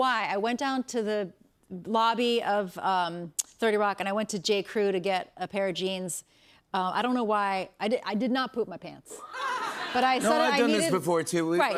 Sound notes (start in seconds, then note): 9.2 laughter